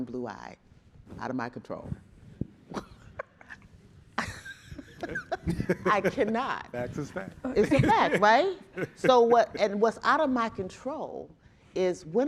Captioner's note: chuckling